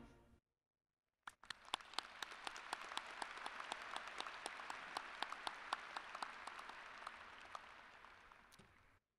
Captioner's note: applause